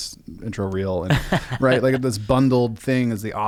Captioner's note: laughing